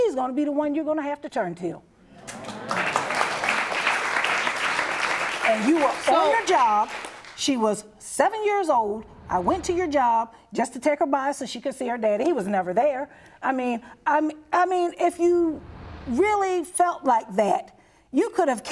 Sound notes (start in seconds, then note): 3.7 applause